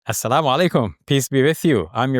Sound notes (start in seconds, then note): 0.0 speaks in Arabic